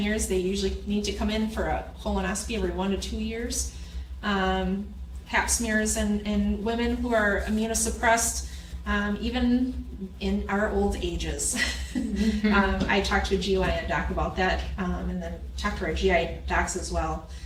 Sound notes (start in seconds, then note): 11.5 chuckling